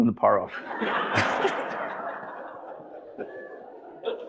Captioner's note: audience laughing